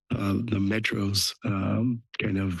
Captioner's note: background chatter